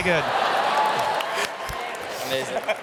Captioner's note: crowd Laughs